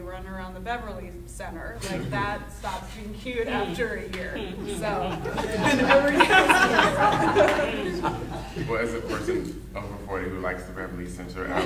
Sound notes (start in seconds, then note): 4.2 laughing drowns out speaker